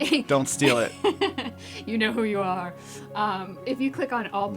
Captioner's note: laugh